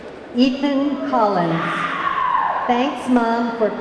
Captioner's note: audience clamoring